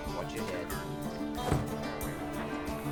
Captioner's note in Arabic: يُغلق باب السيارة